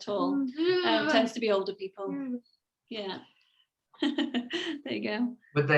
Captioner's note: laughs